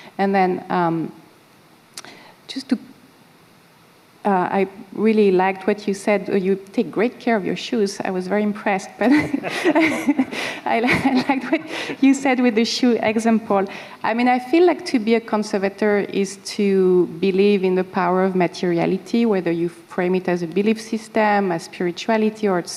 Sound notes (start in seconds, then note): 9.0 laughter